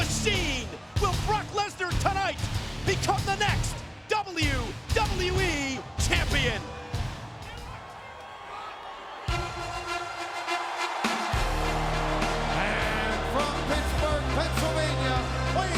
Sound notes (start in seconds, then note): 7.4 audience chattering; 9.3 upbeat music; 11.2 audience cheering and clapping